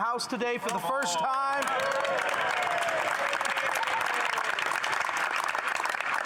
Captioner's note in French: voix de l'interprète